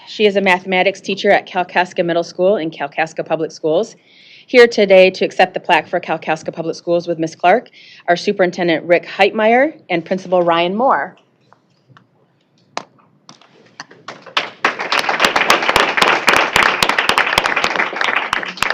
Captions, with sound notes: She is a mathematics teacher at Kalkaska Middle School in Kalkaska Public Schools. Here today to accept the plaque for Kalkaska Public Schools with Miss Clark are Superintendent Rick Heitmeyer and Principal Ryan Moore. [ applause ]